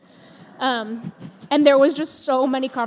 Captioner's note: laughter